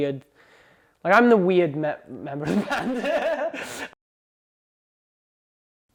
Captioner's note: laughs